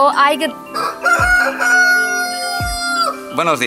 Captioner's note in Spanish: Gallo cacarea MUY fuerte y cerca